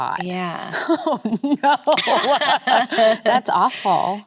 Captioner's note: both laughing